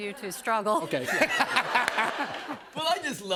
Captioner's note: laughter